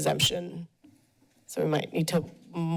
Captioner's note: pause